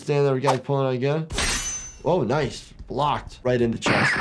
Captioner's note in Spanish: ruido metálico